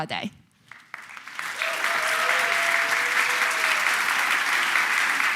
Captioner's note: cheers, applause